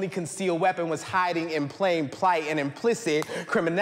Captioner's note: claps